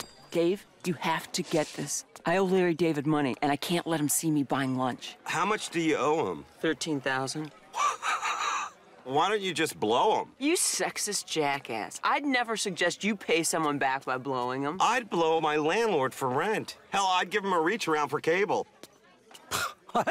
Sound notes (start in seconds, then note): 7.7 laughs